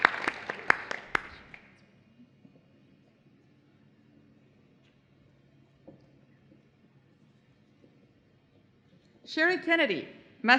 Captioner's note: applause